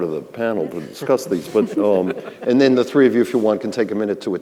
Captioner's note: others laughing